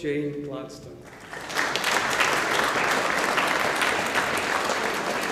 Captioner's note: audience applauding